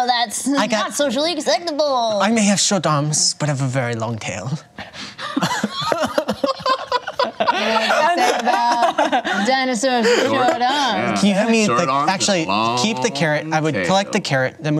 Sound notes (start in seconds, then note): 5.2 laughter